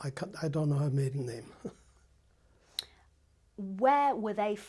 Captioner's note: laughs